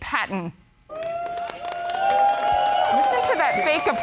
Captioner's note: huge applause